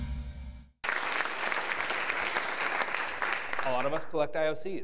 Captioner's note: applause